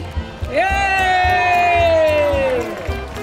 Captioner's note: cheering